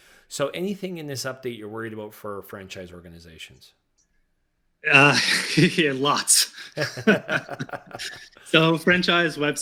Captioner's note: laughing